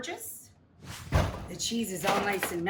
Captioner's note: air whooshing